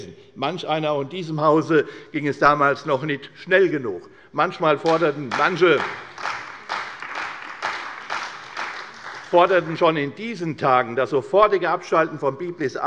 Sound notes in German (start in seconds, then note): 4.8 Beifall bei der CDU